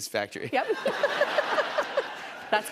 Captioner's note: laughter